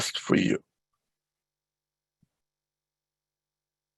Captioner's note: silence